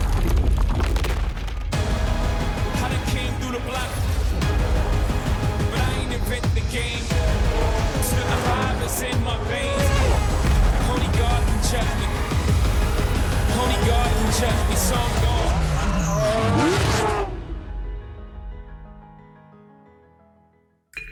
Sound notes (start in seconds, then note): 1.6 crunching; 9.2 continues playing